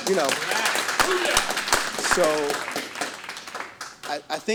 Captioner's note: audience clapping